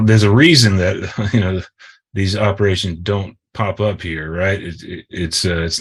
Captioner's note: chuckles